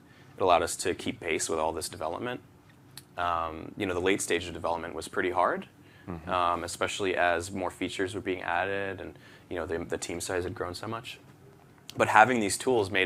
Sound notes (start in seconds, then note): none